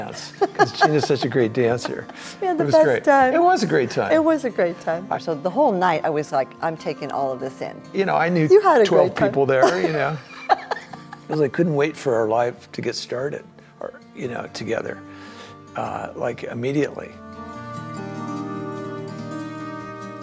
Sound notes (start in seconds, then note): 9.6 laughs; 17.3 gentle music